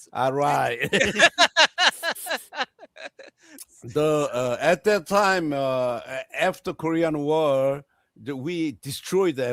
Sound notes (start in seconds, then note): 0.4 laughing; 0.6 웃음